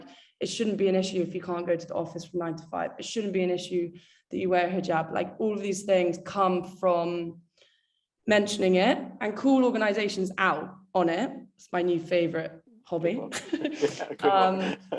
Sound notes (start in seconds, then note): 13.3 laughs